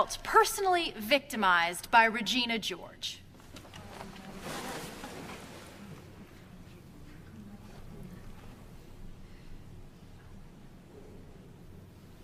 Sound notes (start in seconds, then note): 4.2 people murmur